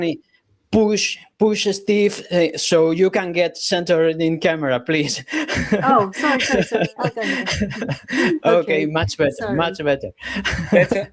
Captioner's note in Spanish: risas